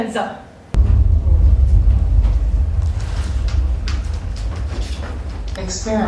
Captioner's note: boom sound